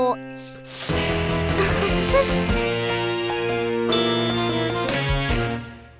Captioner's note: rock music; giggling